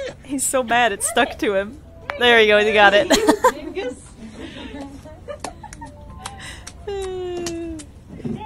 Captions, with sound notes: He's so mad it stuck to him - there you go you got it! (laughs) (laughing) (flipper slapping sounds)